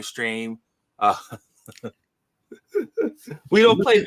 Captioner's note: laughs quietly